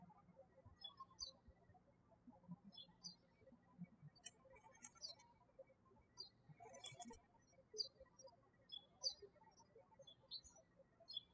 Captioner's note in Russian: птички щебечут